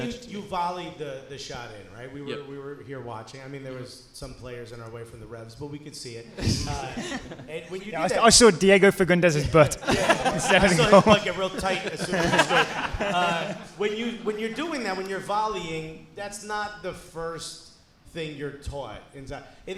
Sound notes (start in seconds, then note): 9.7 hosts laughing; 12.3 hosts and audience laughing